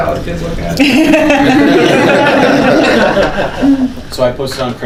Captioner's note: group laughter